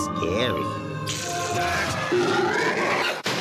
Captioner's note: electric buzzing; monster squeals; booming